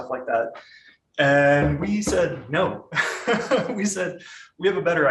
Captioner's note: laughs